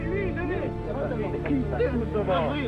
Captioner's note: murmurs